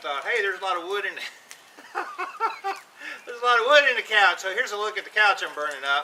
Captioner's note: laugh